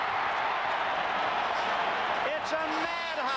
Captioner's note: cheering